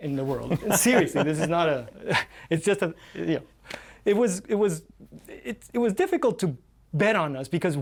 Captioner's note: laughter